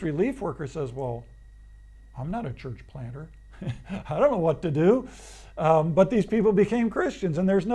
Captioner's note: laughs